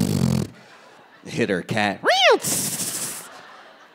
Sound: hissing

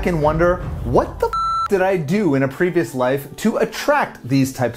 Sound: beep

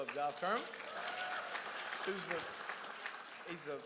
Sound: crowd applauds

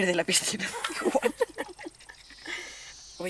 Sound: laugh

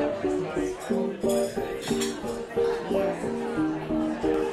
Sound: silverware rattling

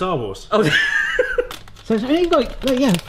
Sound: both laugh

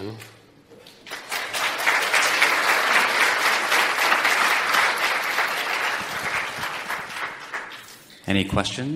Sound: audience clapping

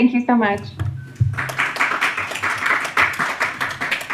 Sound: audience applauds

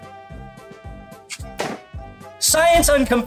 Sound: balloon popping

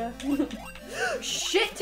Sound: gasp

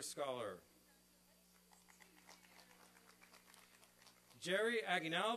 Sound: applause; applause and cheering

